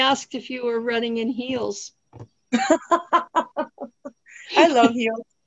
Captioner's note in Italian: risate